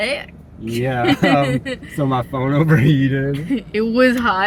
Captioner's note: laughing